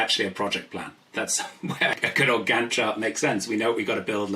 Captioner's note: laughs